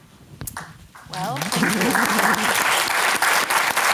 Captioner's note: applause